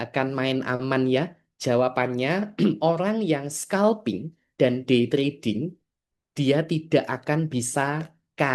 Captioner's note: berdehem